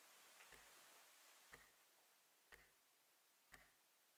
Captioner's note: clock ticking